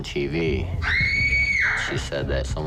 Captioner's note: girlfriend screams